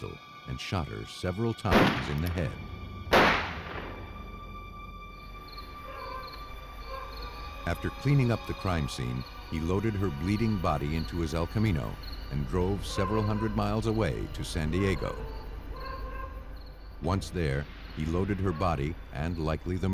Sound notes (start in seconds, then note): 3.1 two gunshots; 5.8 dog barking; 15.7 dog barking